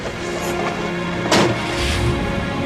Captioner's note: car door closes